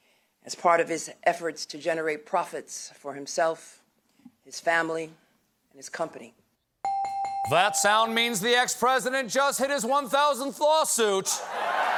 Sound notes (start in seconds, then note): 1.8 ringing bell; 8.6 cheers and applause